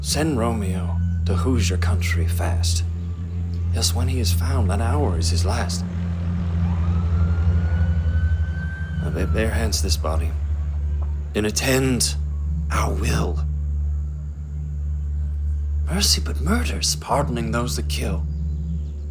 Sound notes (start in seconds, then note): 7.0 siren wails